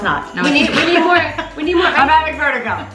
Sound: laughs

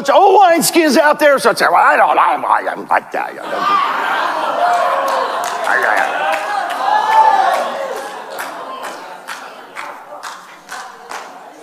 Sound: congregation laughing

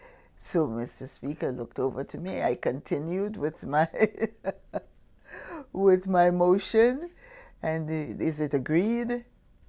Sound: laughs

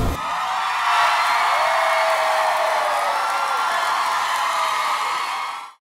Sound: applause

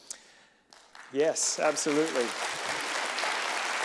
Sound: applause

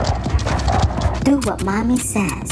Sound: zipper unzips; scorpion scurries

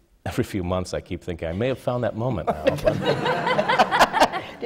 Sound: laughter

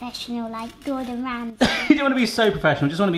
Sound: laughs

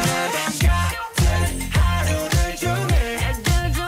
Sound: cheers

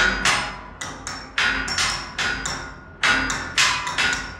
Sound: clanking

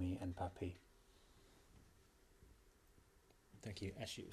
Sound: pauses for 3 seconds

